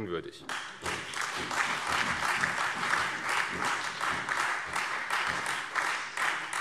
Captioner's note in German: Beifall CDU, Freie Demokraten und vereinzelt AfD